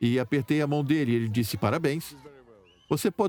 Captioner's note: voiceover